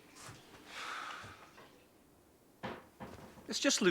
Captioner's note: sighs